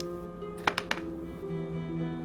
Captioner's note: dice roll